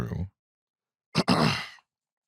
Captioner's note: clears throat